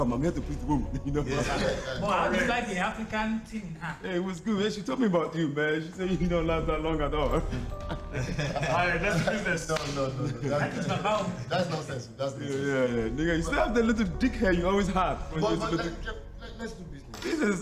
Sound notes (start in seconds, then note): 1.2 laughing; 7.4 laughing; 16.2 stammering